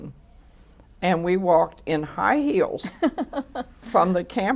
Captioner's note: laughter